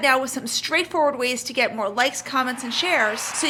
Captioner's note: crowd cheering